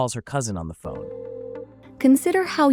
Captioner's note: phone ringing